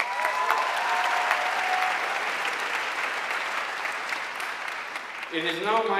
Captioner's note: audience cheering and applauding